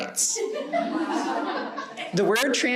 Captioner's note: audience laughing